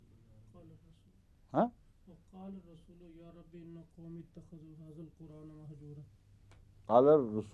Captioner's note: Arabic